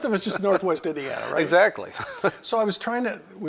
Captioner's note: laughter